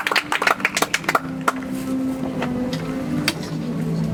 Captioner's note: audience applauds